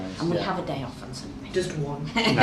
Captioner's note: laughs